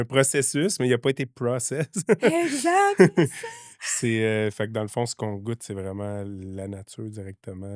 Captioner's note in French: rires